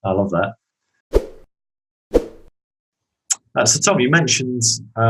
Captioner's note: whooshing